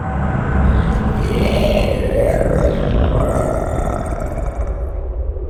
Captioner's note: guttural monsterous roar